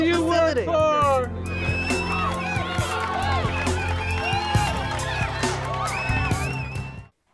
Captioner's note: slow music; group cheering